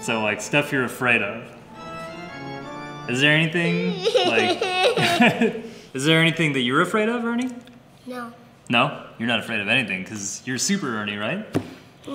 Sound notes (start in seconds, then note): 2.0 scary organ music; 3.6 fake cries